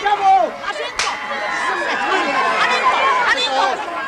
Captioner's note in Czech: hluk rvačky